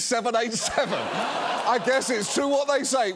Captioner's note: studio audience laughs